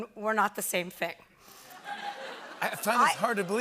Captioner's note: laughter